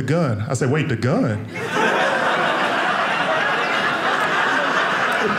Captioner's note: audience laughing